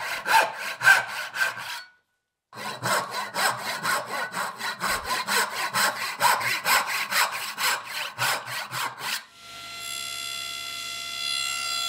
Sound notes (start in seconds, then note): 2.5 handsaw scrapes; 9.4 saw zings